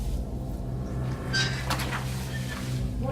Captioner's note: metal scraping